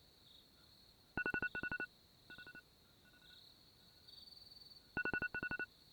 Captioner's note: alarm